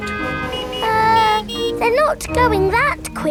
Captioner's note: horns honking